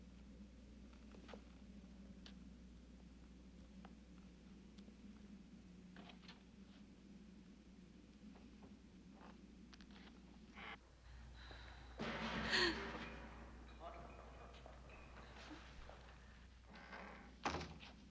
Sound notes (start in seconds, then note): 13.9 creaking; 16.0 loud clanging